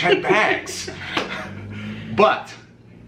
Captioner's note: chuckles